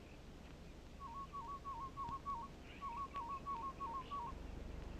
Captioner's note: bird calls